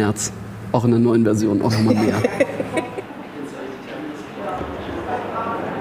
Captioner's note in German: Sie lacht